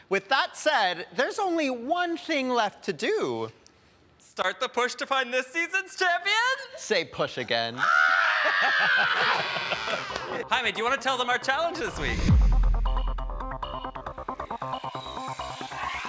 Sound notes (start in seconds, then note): 7.7 screaming; 8.2 laughing; 12.2 energetic music